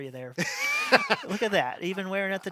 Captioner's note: laughs